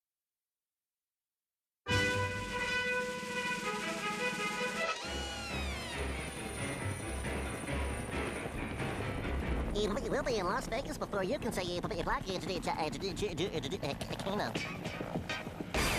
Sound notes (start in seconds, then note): 11.2 stuttering